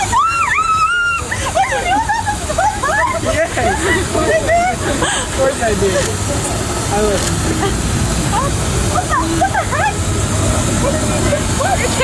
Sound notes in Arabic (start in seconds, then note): 0.0 تصرخ